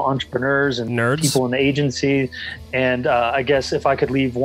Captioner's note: laughs